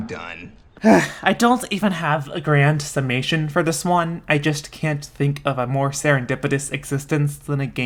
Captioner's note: sigh